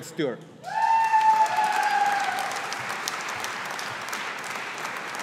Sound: audience applauding

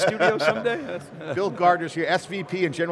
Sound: laughing

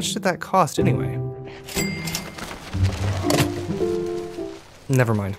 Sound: cash register dings

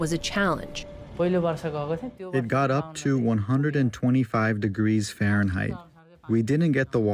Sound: through translator

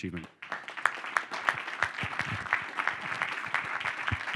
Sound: audience applauding

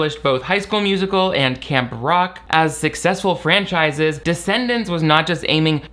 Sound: none

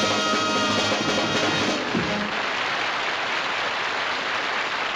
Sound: applause

